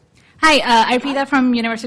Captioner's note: woman's Voice